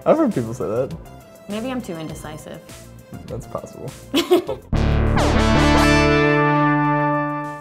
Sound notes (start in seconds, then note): 4.1 woman laughs; 4.7 electronic music